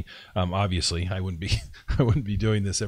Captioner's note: laughs